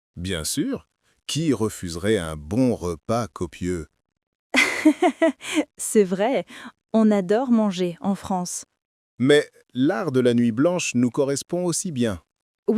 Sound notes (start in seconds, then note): 4.6 laughing